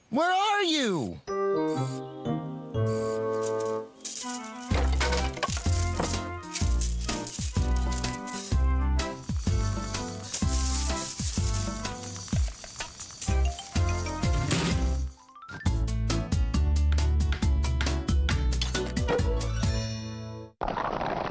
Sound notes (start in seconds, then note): 4.0 clattering; 9.0 mouse Whirring; 15.2 slam!; 17.2 tap! Tap